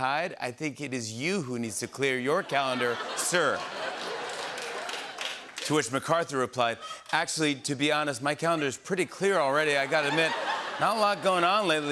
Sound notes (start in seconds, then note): 2.4 laughter and applause